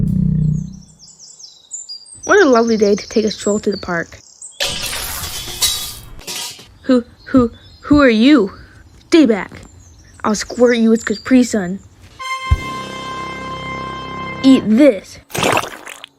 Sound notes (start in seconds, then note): 4.6 metal sounds; 12.2 epic sound; 15.3 caprisun squirt